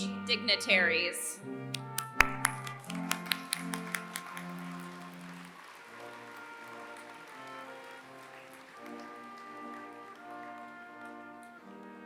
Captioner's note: applause